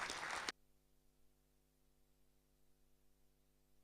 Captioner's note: applause